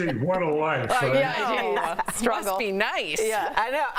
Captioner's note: laughter